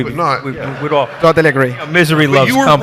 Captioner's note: audience laughs